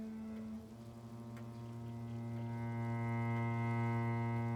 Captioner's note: somber music; clock ticking